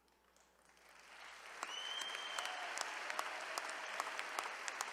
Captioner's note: attendees applauding